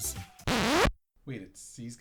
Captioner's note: record scratch